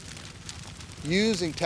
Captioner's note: fire crackling